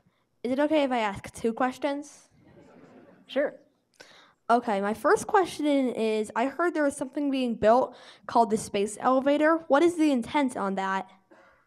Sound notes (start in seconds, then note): 2.5 audience laughing